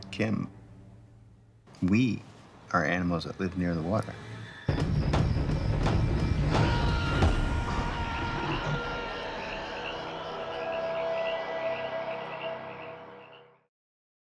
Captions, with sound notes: Kim, we are animals that live near the water. [SCREAMING] [FROGS CROAKING]